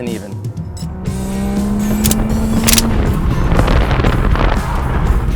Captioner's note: engine revving